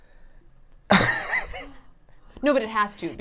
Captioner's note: laughs